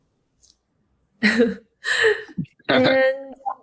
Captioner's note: laughing